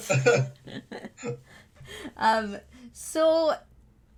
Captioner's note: both chuckling